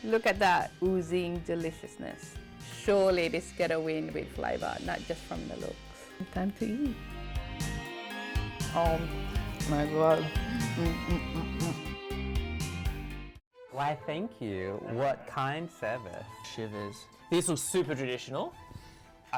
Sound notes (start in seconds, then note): 7.4 light cheery music; 10.0 humming; 10.6 light cheery music